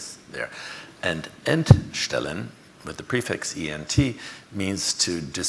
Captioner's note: speaks foreign language